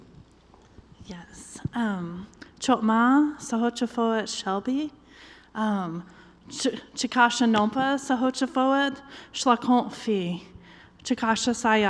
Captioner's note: foreign language